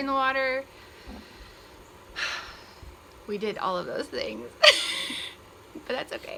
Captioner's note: sigh